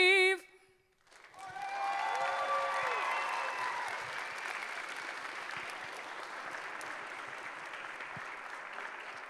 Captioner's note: applause